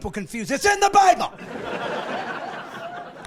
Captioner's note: laughing